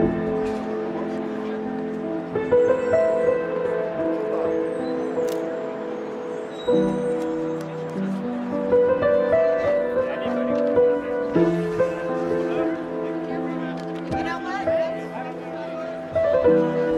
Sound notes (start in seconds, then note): 0.2 pensive piano music continues; 5.2 camera clicks